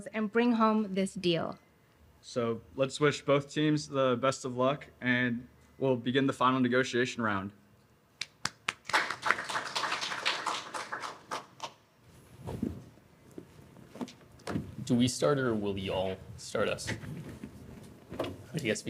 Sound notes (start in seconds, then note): 8.3 applause